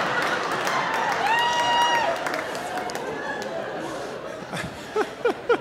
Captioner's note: audience laughing; audience cheering; laughing